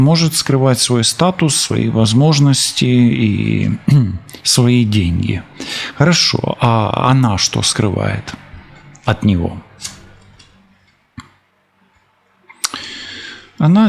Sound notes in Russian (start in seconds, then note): 3.8 откашливается